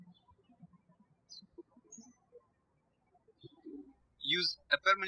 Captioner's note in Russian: птички щебечут